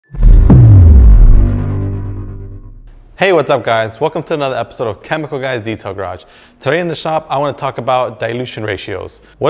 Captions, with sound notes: (logo thudding) - Hey, what's up guys? Welcome to another episode of Chemical Guys Detail Garage. Today in the shop, I wanna talk about dilution ratios.